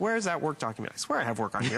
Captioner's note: laughter